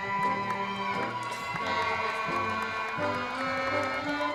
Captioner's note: crowd cheering